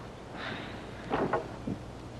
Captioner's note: sighs